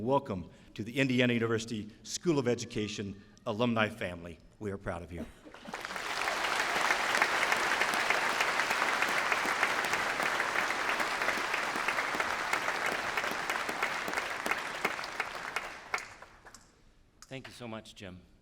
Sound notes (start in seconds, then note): 5.0 applause